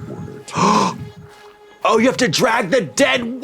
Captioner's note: gasps